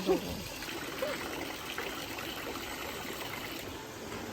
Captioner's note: awww